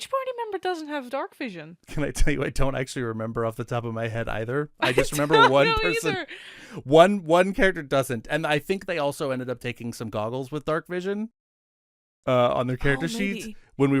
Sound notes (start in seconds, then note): 1.9 laughing